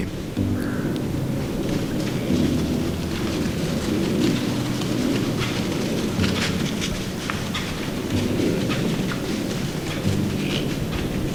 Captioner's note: sound of light wind, running in the leaves; sound of small buck grunting